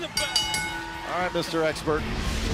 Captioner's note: bell ringing